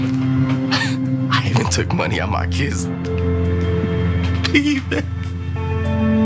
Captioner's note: laugh